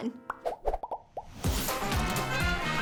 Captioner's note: background bubbles rapidly popping